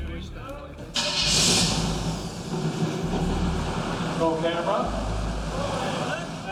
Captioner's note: fans starting